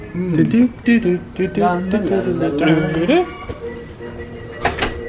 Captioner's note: humming